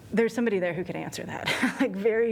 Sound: laughter

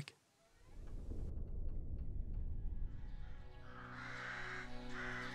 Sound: thunder in distance; crows cawing and orchestral music

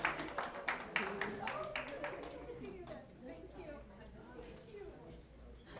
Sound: chatter

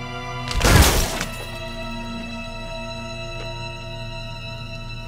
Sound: glass clatters

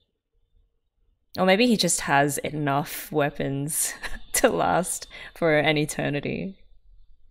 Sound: laughs

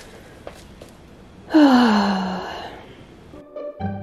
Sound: sigh; cheerful pizzicato music is back

